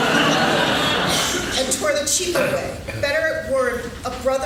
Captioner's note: laughing